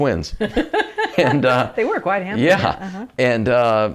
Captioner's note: laughs